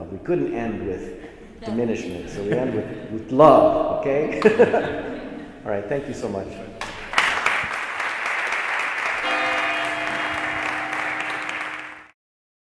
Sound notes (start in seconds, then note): 4.0 laughs; 4.2 assembly laughs; 6.8 assembly applauds; 9.2 bell rings